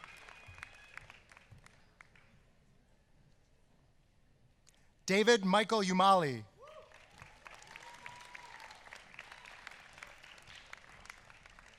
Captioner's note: applause